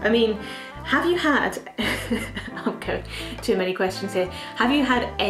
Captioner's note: laughs